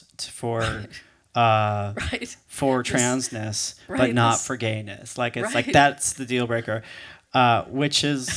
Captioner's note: laughing